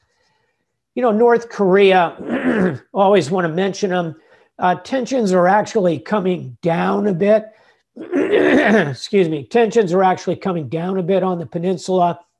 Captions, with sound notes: You know, North Korea, always wanna mention 'em. Tensions are actually coming down a bit. (clears throat) Excuse me. Tensions are actually coming down a bit on the peninsula